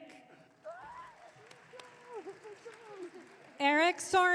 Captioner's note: audience cheering